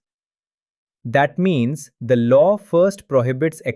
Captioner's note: thoughtful